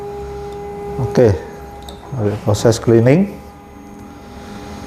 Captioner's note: printer machine noise